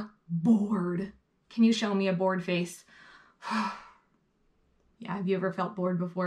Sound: sighing

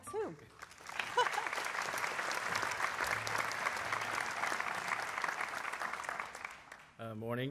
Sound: applause

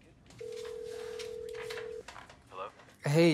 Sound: phone ringing

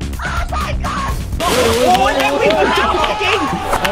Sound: cheering; applauding; applauding continues

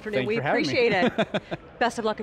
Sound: chuckling

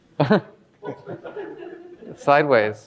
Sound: all laughing

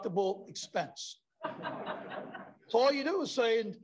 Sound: laughter

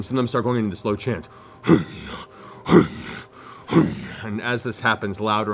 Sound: imitates chanting

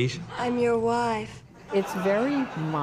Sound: laughter

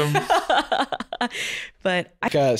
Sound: laughing

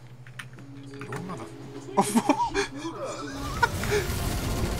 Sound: laughing

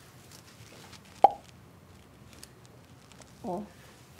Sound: not a single sound

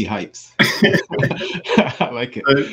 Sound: laughs

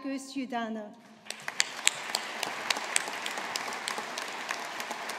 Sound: audience applauding

